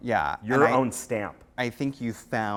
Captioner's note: voiceover